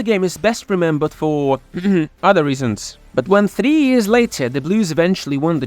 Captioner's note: cough cough